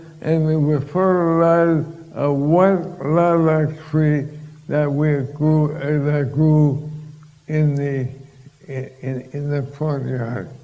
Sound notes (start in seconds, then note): none